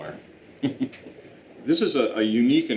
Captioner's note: laughing